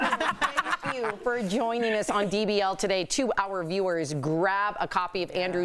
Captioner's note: laughter